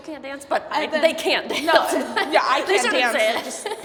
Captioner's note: laughing